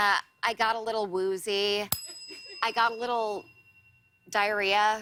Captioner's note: ding